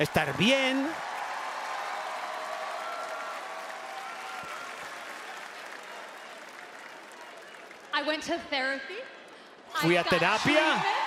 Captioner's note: applause